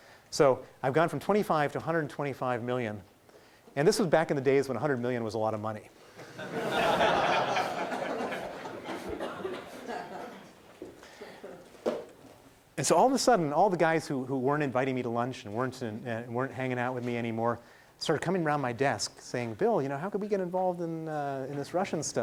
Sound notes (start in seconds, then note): 6.2 laughing